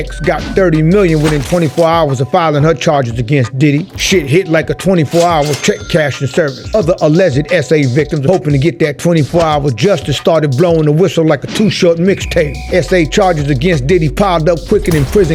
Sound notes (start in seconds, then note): 5.0 cash register dings